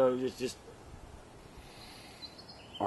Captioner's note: deep zen breath